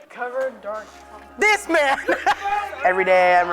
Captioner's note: laughing